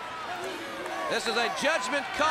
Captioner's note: crowd cheering